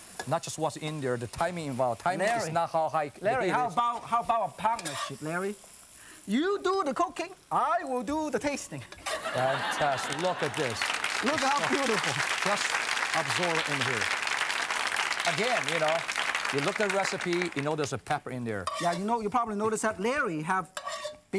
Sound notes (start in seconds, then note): 9.1 laughing; 11.0 applause